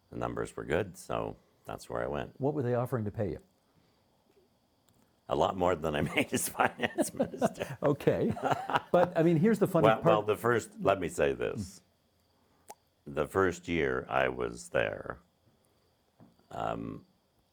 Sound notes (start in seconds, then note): 5.8 laughing; 5.9 chuckling